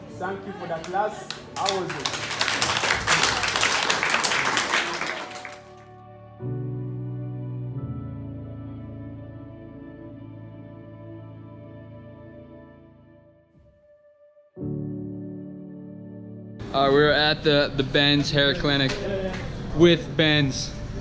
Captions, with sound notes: Thank you for the class, how was it? (crowd clapping) - We're at the Benz Hair Clinic with Bens.